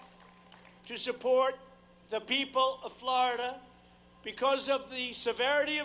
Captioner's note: applause